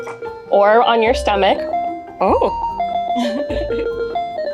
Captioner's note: laughs